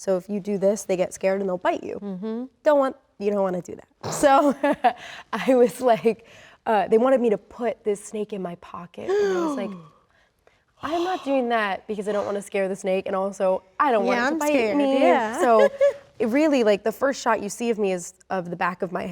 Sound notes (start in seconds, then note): 4.4 Rachel laughs; 4.4 laughs; 14.9 laughs